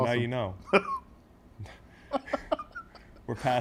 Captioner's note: laugh